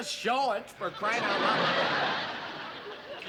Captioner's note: laughter